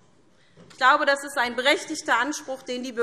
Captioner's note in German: none